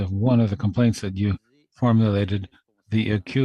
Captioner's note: speaking French